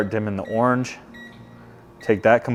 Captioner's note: remote beeps